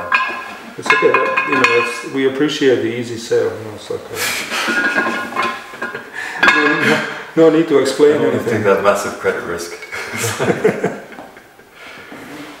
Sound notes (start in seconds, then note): 4.0 laughter